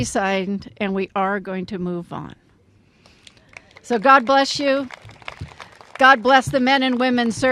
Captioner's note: applause